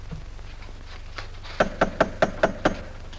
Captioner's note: knocking at door